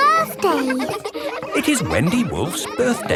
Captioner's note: kids laughing